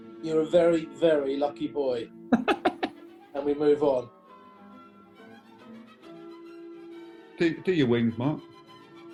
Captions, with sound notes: you're a very, very lucky boy. [GIGGLING] And we move on. Do your wings, Mark.